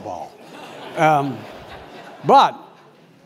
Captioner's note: laugh